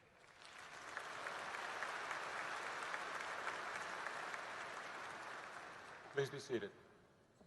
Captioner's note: applause